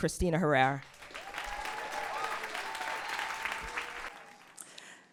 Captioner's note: audience applause